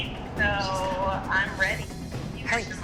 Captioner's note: whispering